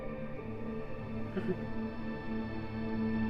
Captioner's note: laughs